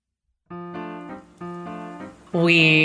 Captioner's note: rain fades in